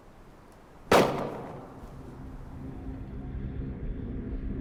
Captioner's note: gunshot; eerie music